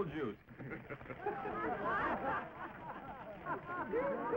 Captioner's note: laughing